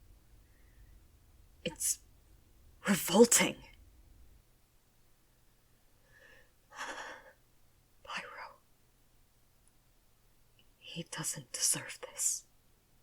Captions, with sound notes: It’s... revolting *Shaky sigh* Pairo… He doesn’t deserve this…